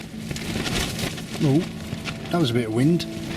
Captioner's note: strong gust of wind